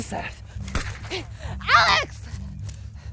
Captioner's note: gun bangs